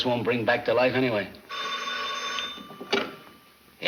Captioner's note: phone rings